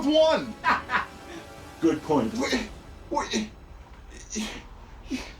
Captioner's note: laughing